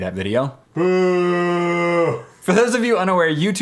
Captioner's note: yelling in background